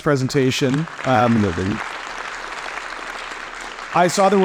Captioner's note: audience applauding